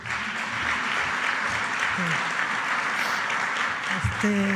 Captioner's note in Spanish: aplausos